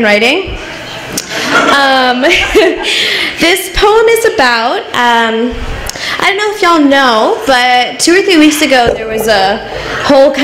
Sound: laughs

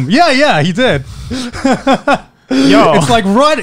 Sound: chuckling

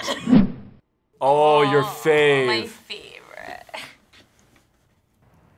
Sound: laughs

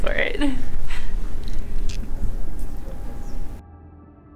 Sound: eerie sounds

